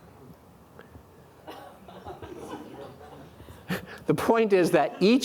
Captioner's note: audience laughing